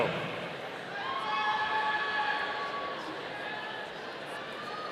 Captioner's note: audience cheering